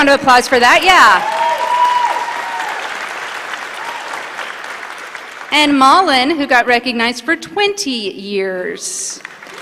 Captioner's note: applause; applause